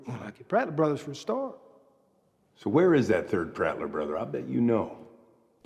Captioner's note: none